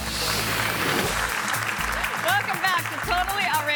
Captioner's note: audience applauding